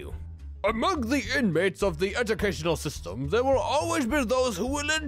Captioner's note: dapper accent